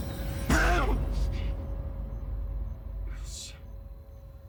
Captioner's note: yells in fear